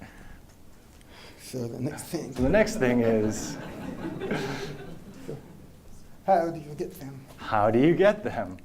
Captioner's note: laughter